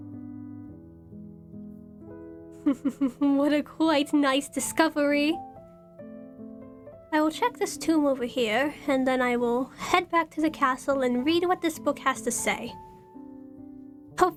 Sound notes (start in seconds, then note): 2.6 giggles